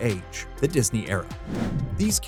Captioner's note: whoosh